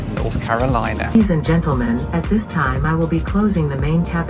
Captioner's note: recorded Voice